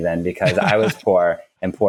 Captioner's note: laughs